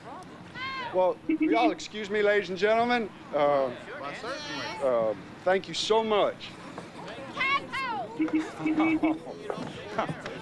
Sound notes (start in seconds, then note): 5.5 horn continues beeping